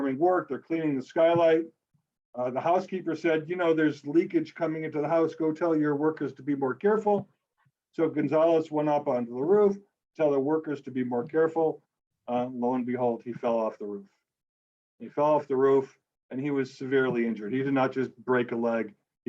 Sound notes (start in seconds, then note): none